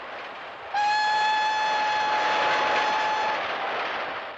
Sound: train whistle blows

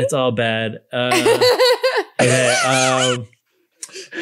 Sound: laughing

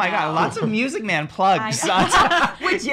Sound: laughing

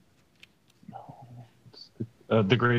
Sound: students whispering

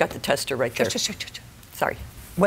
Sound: shushing

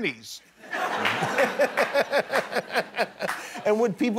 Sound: laughter

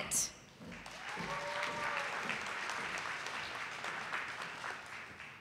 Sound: audience applauding

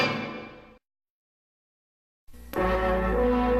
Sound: silence

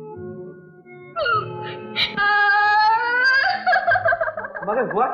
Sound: crying

